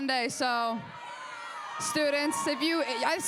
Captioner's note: crowd cheers